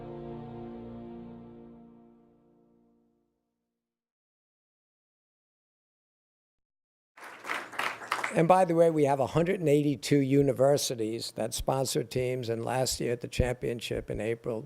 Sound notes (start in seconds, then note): 7.2 applause